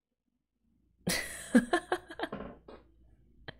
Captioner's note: laughs